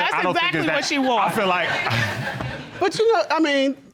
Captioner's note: laughs